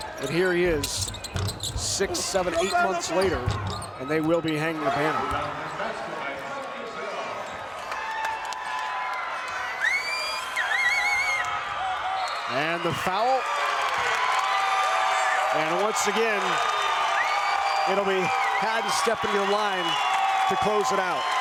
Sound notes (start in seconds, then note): 9.9 crowd member whistles; 14.1 crowd cheers